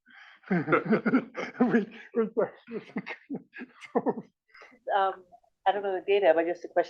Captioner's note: laugh